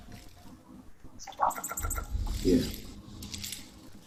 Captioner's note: robot chirping and clicking